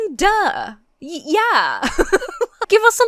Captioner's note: laughs